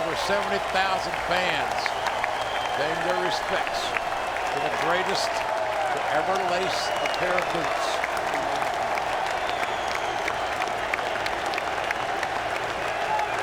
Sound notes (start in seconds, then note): 8.9 crowd cheering